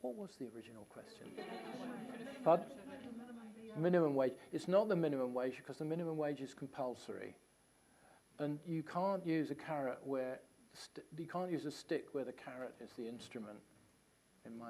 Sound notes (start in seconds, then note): 1.2 laughter